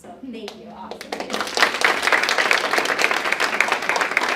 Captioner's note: audience clapping